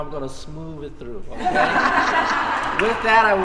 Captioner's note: laughter